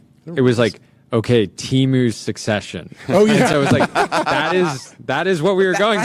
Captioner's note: laughs